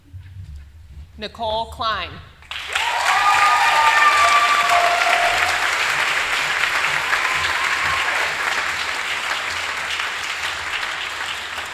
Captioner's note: applause